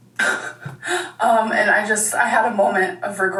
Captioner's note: laughs